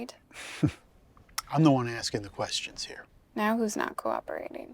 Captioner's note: laughs